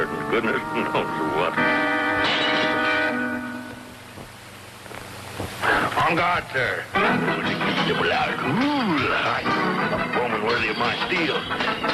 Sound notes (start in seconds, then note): 1.9 suspenseful music; 2.2 glass shattering; 7.7 Mr. Magoo speaking in foreign language